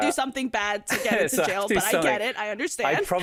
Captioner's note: chuckles